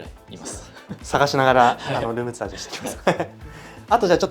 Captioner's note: laughs